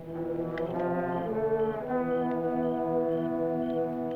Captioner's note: crickets chirping